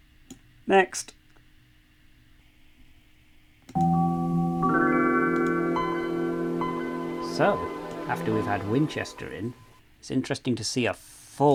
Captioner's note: Win 95 start-up sound